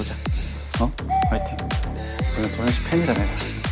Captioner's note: suddenly cheering after bickering